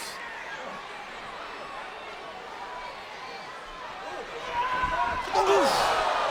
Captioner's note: crowd chatter